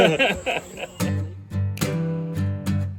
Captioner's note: laughter